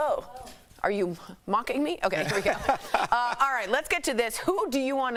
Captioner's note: laughter